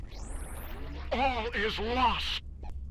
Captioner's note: static